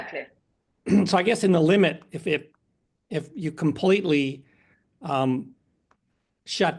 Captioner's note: cough